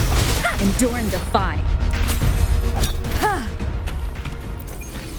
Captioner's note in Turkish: Çatışma sesleri